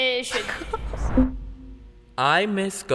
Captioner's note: kid chuckles